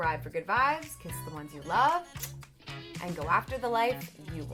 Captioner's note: smooch